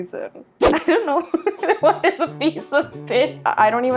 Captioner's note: laughs